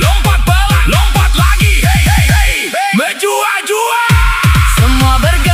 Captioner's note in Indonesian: berteriak